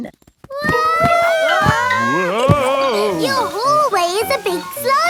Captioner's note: all yelling